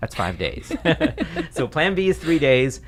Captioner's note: laughter